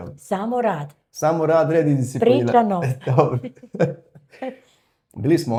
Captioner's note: laughter